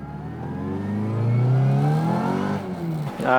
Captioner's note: engine accelerates